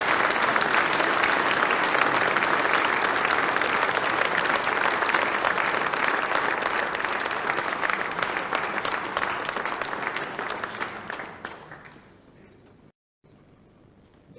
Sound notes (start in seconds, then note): 0.0 applause